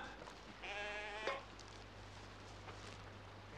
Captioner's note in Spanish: las ovejas balan